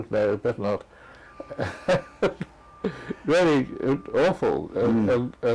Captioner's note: laugh